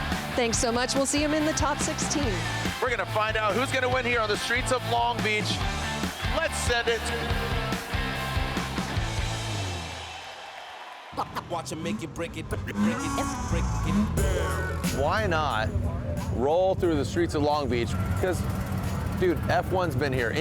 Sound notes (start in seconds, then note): 5.3 bold upbeat music plays; 8.0 crowd roars